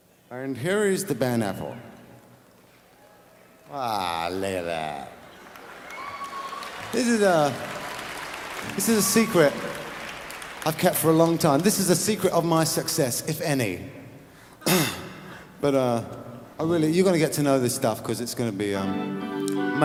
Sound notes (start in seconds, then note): 5.7 laughs